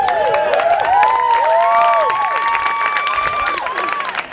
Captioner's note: cheering